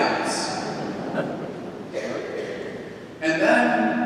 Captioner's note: congregation laughs